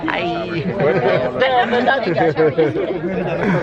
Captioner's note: chatter in so many languages